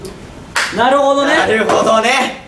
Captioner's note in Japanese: パンッ！：手叩く